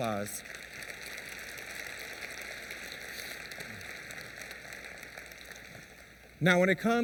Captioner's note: applause